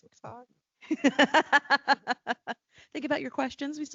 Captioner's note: laughing